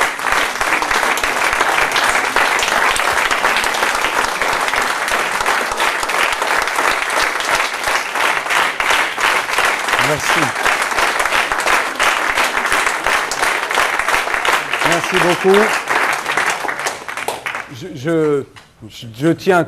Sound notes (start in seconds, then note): 11.1 applause